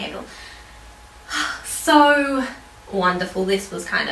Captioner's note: sighs